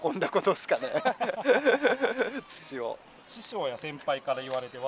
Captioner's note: laughs